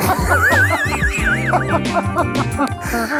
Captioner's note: laughter